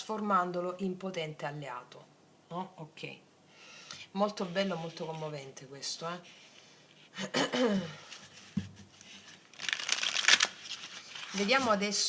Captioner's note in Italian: schiarire la voce